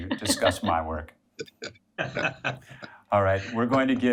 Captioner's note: people laughing